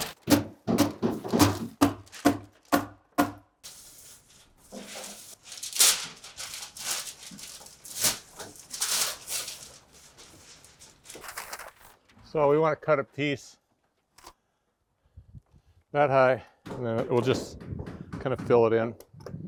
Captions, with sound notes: (tool knocking) (paper crunching) - So we wanna cut a piece that high and then it will just kind of fill it in.